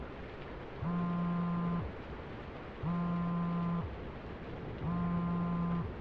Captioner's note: phone buzzes